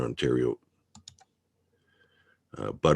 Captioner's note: mouse clicking